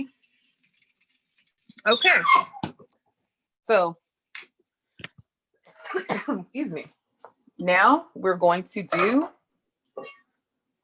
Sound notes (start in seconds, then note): 5.8 coughs